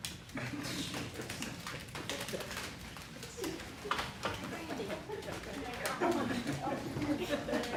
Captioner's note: laughter